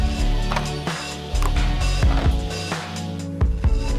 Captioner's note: plastic clicking